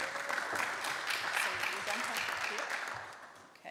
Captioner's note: applause